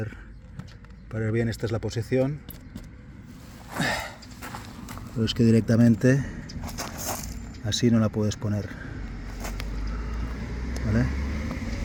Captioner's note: sigh